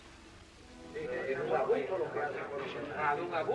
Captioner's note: spanish conversation